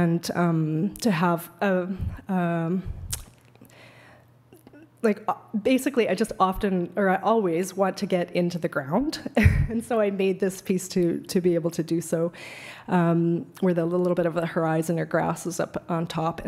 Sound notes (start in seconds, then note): 9.2 laughs